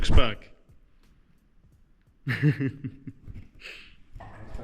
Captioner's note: laughing